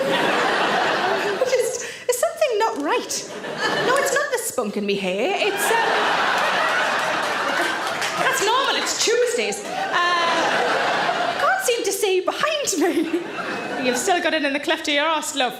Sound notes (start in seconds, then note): 0.0 audience laughs; 5.3 audience laughs